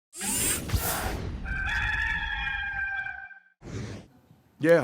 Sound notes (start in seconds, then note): 0.2 graphics whooshing; 1.4 rooster crows